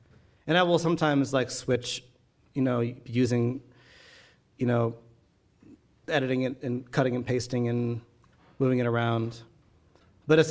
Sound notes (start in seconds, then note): none